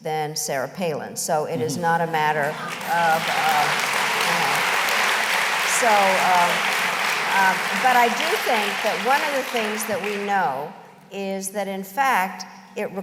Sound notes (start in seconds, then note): 4.8 applause